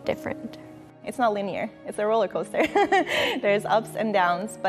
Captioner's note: laughs